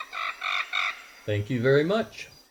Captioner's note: male Voice